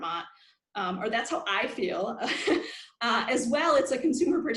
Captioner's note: laughs